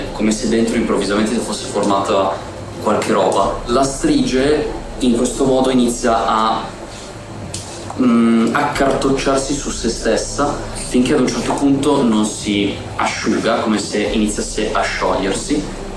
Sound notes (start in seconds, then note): none